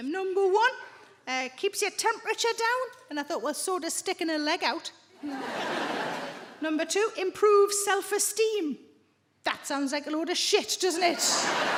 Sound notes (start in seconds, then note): 5.2 audience laughing